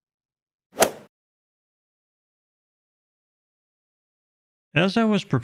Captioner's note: golf swing sound effect